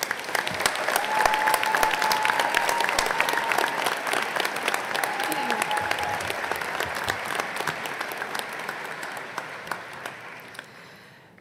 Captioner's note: applause